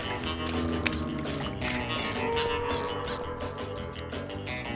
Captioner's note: squeaking; spy music